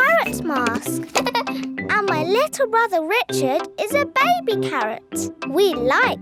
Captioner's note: giggles